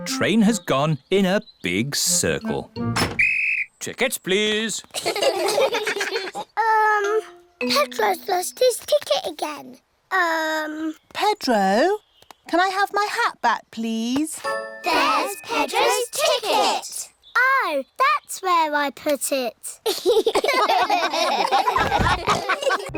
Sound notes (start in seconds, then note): 3.1 blows whistle; 4.9 all laugh; 19.8 all laugh